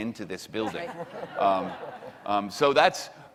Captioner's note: laughing